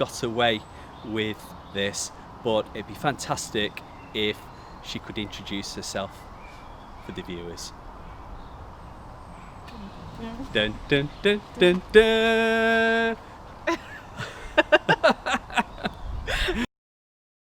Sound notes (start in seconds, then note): 9.8 hums suspensful music intro; 13.6 laugh